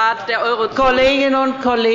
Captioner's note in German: Anhaltende Unruhe